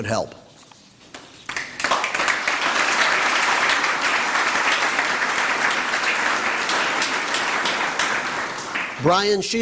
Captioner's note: applause